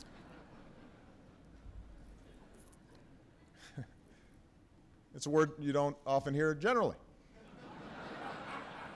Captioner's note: laughter